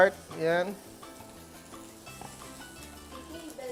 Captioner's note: sizzles